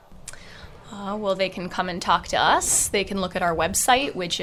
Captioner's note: voiceover